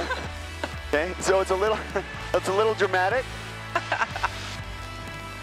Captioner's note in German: Beide lachen; lacht